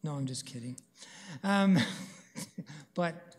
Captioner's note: chuckles